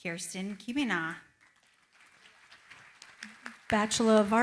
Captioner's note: applause